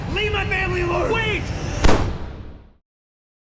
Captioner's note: gunshot